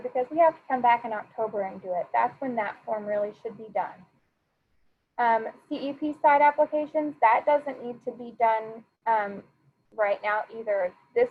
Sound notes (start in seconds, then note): none